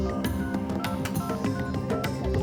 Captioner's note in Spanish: sonido al marcar